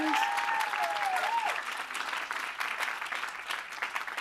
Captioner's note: applause